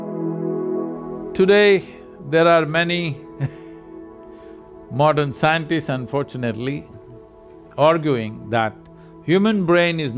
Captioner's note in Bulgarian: Смее се